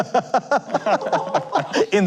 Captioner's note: laughing